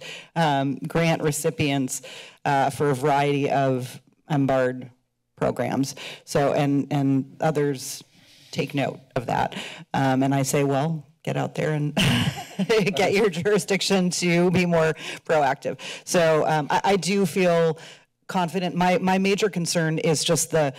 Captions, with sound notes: um, grant recipients, uh, for a variety of MBARD programs. So, and, and others take note of that. Um, and I say, well, get out there and- [laughs] get your jurisdiction to be more proactive. So, um, I do feel confident. My, my major concern is just the,